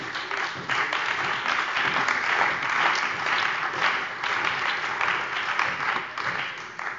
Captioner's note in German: Beifall bei der CDU und dem BÜNDNIS 90/DIE GRÜNEN